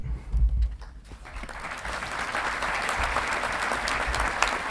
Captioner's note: audience clapping